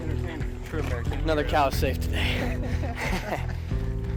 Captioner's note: laughs; out of breath